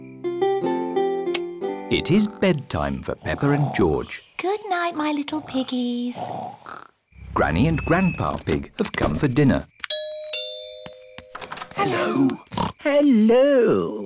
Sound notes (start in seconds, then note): 6.1 both snoring; 9.9 rings doorbell; 11.9 oinks